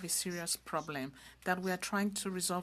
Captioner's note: speaking french